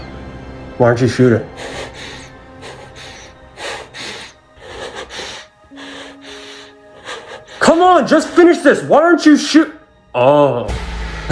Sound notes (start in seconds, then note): 1.5 all breathing shakily